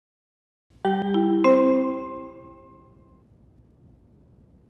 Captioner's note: three Melodic Chimes